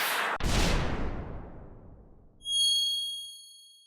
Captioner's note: whooshing; metallic slam; high-pitched chime